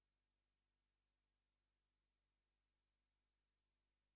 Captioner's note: none